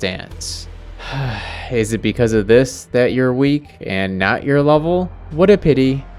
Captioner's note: sighs